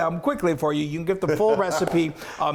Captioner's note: laughs